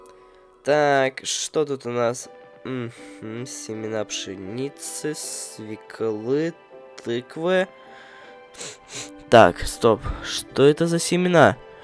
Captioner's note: sniffed the microphone